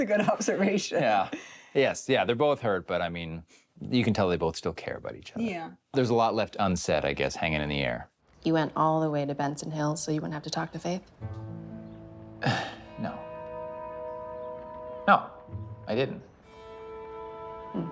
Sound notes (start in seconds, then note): 0.0 chuckles; 12.3 soft cheerful music; 14.8 scoffs